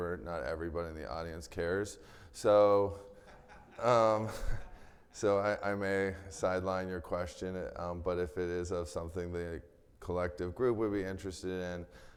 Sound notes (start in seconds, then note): 3.0 chuckles; 3.1 attendee laughing